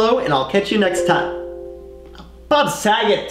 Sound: notification sound effect

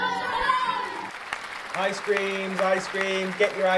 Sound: clapping noise

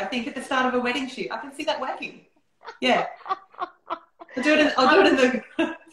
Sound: laughter

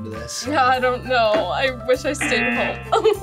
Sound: buzzer; laughs

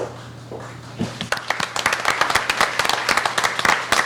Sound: applauding

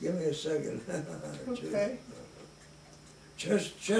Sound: chuckles

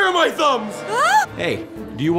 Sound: scream

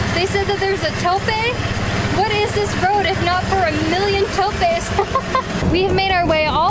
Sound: laughs

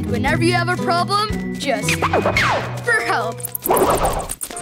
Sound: scratching

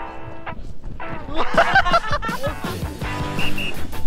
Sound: giggling

